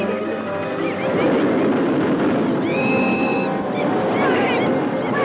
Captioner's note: roller coaster rattling; animatronic laughing